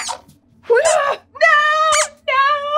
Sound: squeaks squeaks

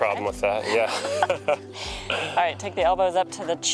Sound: both laugh

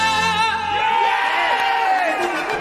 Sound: cheering

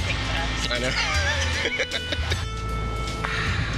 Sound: laughs

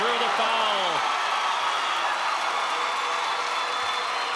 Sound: crowd cheering

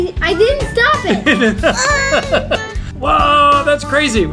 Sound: dad laughing

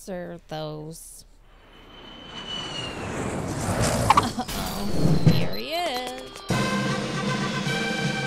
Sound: sound of fighter jet landing

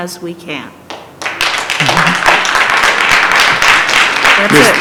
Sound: applause

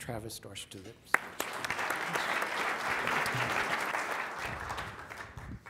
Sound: applause

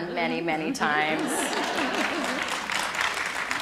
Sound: applause

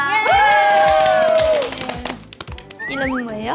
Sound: applause

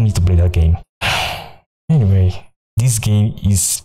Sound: sigh

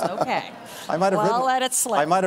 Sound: laughter

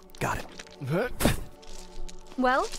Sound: grunt

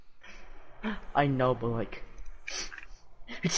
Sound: sniff

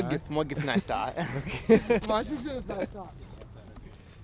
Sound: laughter

